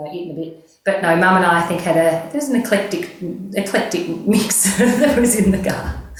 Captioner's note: laughs